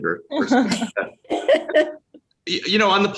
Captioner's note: laughing